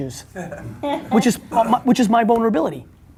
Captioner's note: laughing